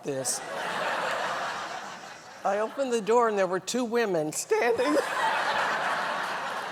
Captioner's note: laughter; laughter